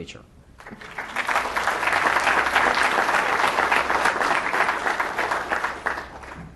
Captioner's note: applause